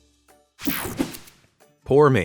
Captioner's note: whooshing sound